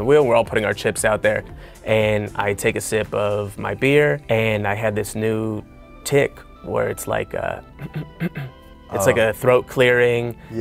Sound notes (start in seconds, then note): 7.8 ahem